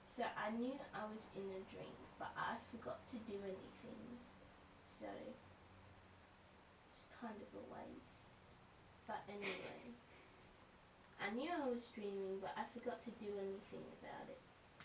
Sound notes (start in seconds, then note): 9.3 quiet giggles